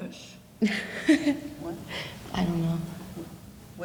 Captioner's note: laughing